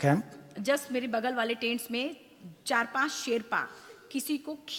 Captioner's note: speaks foreign language